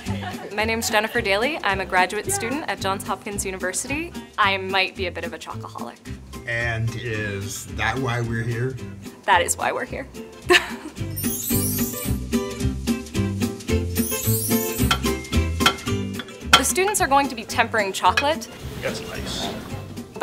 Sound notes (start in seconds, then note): 10.5 laughs; 12.1 upbeat music; 14.6 chopping